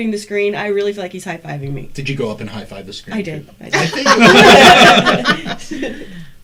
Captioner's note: all laugh